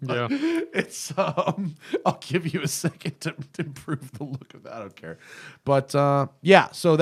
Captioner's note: laughter